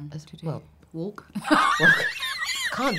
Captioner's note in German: lacht